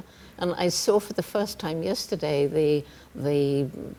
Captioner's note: none